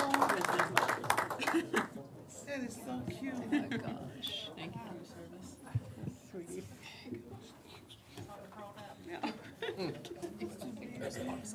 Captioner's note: applause